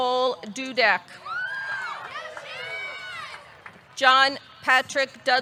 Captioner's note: audience cheering; audience clapping